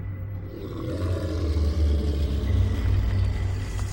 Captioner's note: snake growls